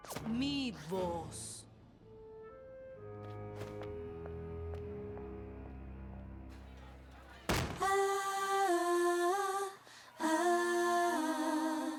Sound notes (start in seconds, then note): 7.5 crash